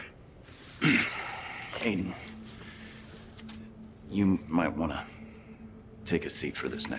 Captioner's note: coughs